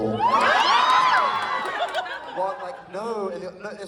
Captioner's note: audience Cheers